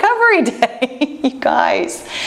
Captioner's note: laughs